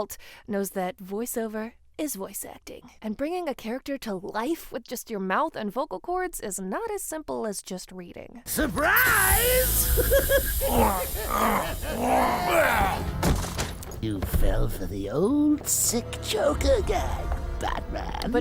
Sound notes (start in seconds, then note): 8.6 laughs; 10.3 Batman groans